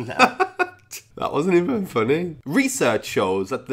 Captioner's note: laughs